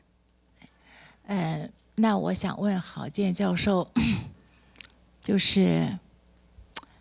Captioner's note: speaks Mandarin